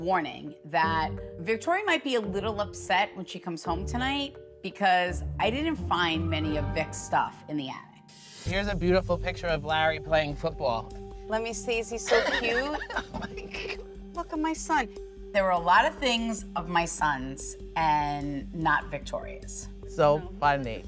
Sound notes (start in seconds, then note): 12.0 laughs